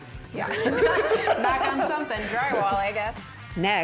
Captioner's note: both laughs